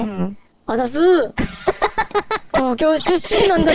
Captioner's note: laughing